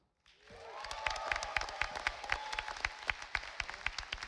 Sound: audience applauding

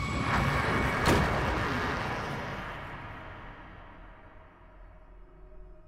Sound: door slamming; ominous electronic music

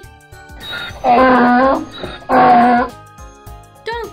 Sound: donkey braying

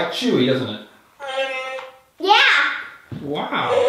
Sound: moaning

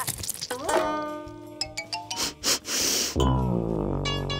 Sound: sniffing

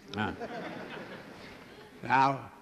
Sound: laughter

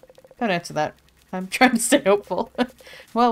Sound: laughs

